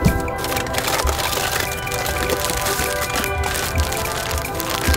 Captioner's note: paper ruffles